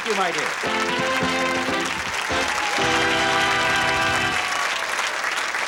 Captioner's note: applause; fanfare